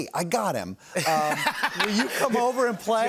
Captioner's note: laughter